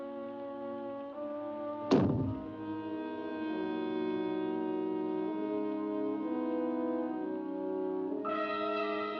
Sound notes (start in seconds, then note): 1.9 small explosion; 1.9 ominous music; 8.1 suspenseful music